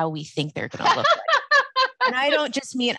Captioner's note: laughs